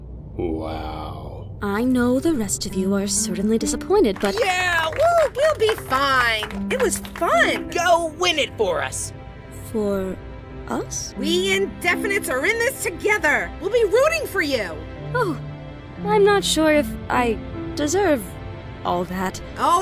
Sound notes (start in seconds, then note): 4.0 contestants applaud; 4.3 lifering cheers; 6.7 contestants applaud